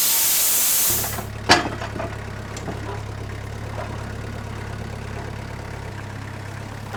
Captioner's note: forklift rumbles; metal clunks